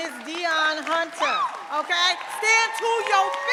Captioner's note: audience cheering and applauding